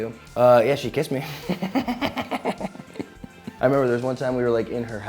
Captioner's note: chuckles